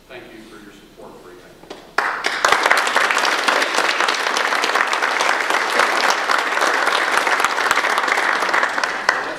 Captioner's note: audience applause